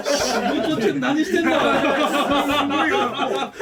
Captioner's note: laugh